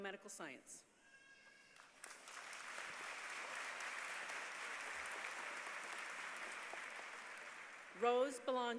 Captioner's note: applause